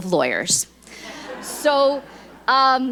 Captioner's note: audience laughs